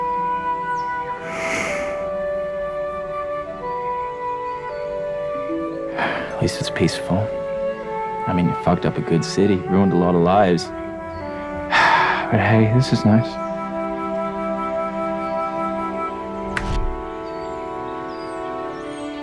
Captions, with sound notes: At least it's peaceful. I mean, fucked up a good city, ruined a lot of lives (sighs) but hey, this is nice. (light pleasant music)